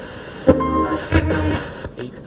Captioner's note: radio hissing